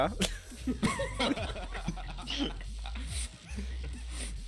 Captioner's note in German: Lachen